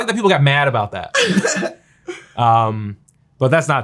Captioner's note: chuckles